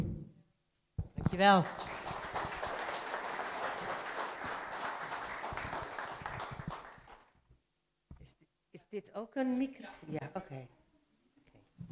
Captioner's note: applause